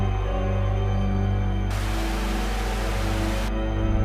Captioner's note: creepy music; Static